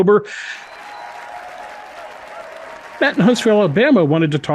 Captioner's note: applause